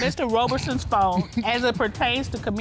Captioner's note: chuckles